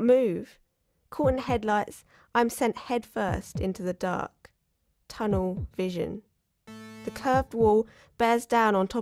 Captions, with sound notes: (machine buzzing sounds) The curved wall bears down on top of me.